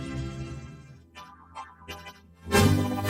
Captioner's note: Gloink boinking softly